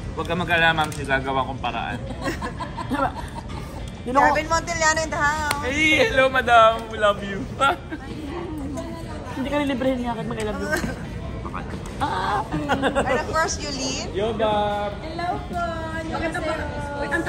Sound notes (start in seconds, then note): 2.0 laughs; 2.9 stutters; 7.6 laughs